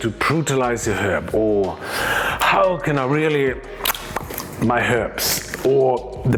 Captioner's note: tongue popping